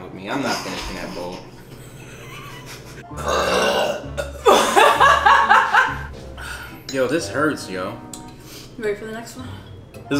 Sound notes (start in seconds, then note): 1.6 both laughing; 3.1 belches; 4.4 laughing